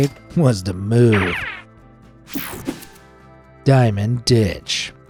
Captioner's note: air whooshes